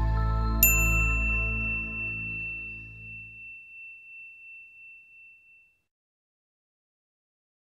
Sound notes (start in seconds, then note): 0.6 bell dings